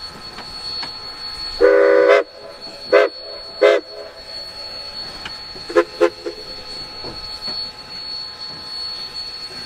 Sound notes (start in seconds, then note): 3.5 one whistle